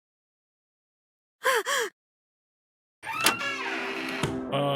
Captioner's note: gasps